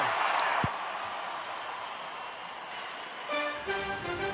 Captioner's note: cheering